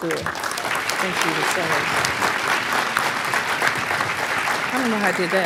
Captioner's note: applause